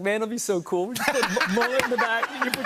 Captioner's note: laughter